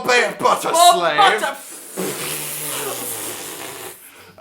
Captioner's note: make weird... hose like noises